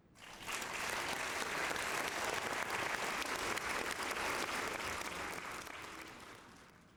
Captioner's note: applause